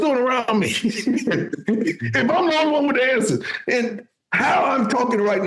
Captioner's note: laughing